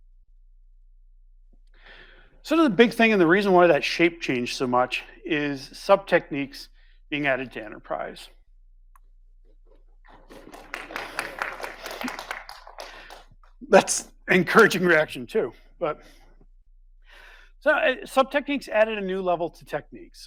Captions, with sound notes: Some of the big thing, and the reason why that shape changed so much is sub-techniques being added to enterprise. (audience applauding) That's encouraging reaction too, but sub-techniques added a new level to techniques.